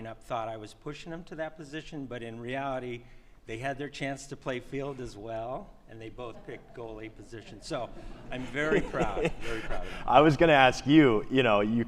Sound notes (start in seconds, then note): 8.2 laughs